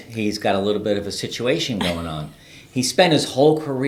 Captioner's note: laughs